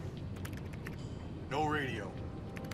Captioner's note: typing